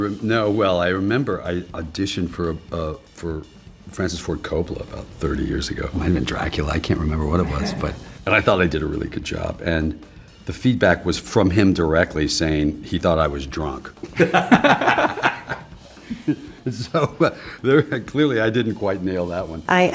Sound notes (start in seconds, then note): 14.0 both laughing